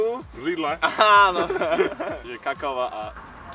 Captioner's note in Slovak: smiech